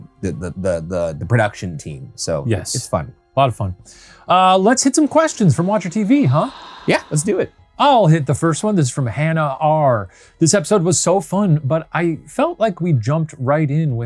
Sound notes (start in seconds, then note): 6.5 voice whispering